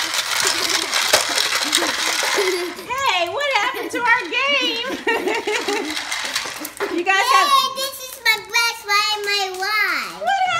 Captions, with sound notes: Hey, what happened to our game? (laughing) - Yay, this is the best day of my life!